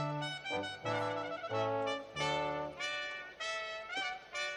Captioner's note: none